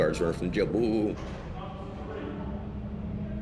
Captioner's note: voices chattering